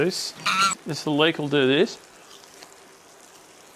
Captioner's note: Cronch